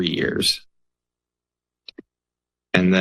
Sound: pause

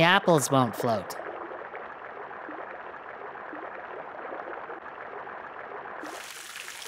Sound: water flowing

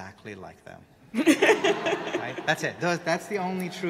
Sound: audience laughing

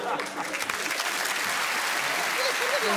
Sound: applause

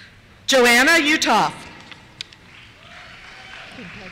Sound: cheers

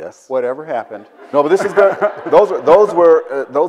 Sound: audience laughs

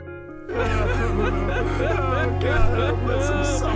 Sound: music rises; crying

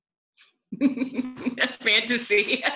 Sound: laughs

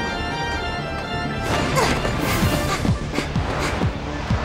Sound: player grunts and pants; exciting music playing

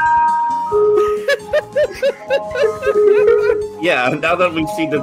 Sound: loud carousel music plays; laughter

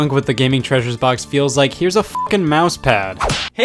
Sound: beep

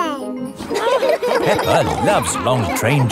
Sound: laughing

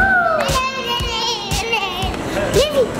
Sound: girls cheering and chattering

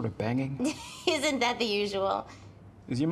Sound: laughs

